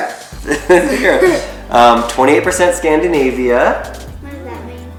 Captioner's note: laughs